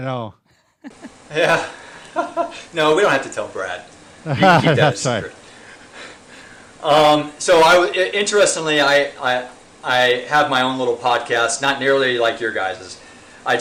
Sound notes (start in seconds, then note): 0.8 men laughing; 4.2 laughing